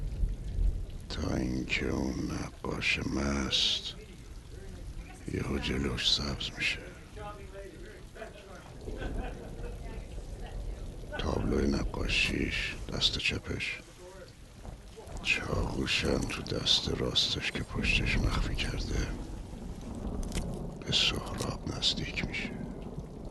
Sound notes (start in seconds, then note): 6.9 rain falling/babbling